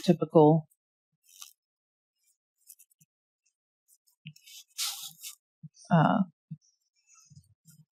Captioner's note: drawing noises